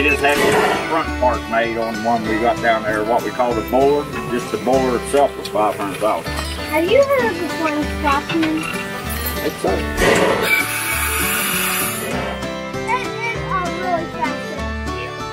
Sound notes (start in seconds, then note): 10.1 steam whistles